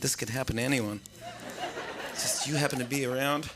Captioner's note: laughter